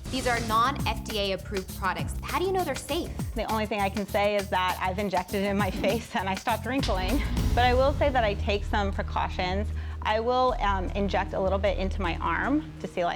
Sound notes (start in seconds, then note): 5.2 giggles